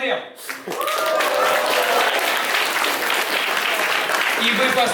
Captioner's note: applause